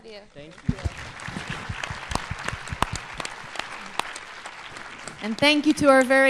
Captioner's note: applause